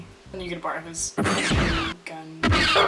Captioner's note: bowcaster blasting